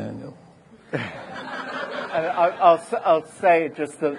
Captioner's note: audience laughing